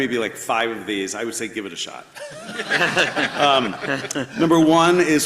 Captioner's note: everybody laughs